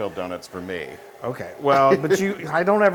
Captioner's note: laugh